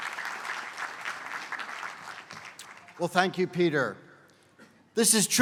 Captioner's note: applause